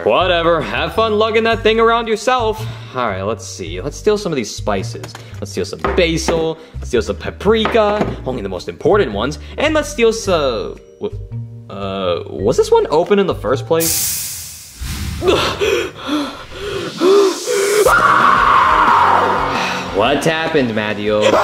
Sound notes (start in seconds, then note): 13.8 gas hisses; 15.2 Mario breathing intensely; 17.3 Mario screams